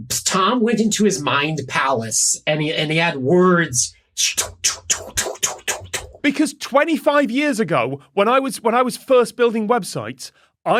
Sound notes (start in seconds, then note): 4.2 imitates laser flashes